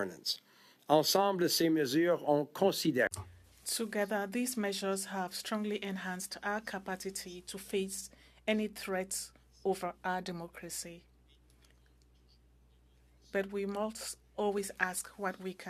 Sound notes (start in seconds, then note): 5.7 speaking French